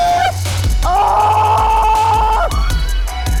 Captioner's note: screaming; intense music continues